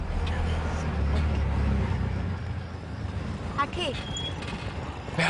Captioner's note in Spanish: Sonido del motor